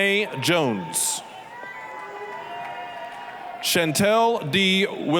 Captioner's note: applause, cheering